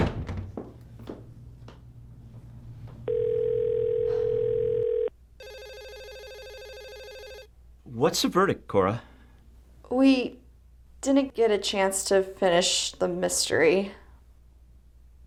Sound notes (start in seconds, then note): 2.2 phone ringing